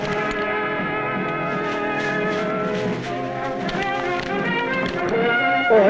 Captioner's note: rustling; non-english speech